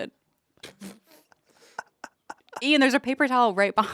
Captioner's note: laugh